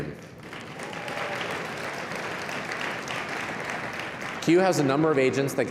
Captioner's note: applause